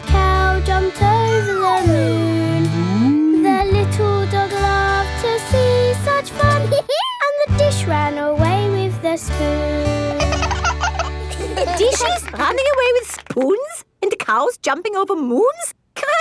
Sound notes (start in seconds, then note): 6.7 dog laughs; 10.0 both laugh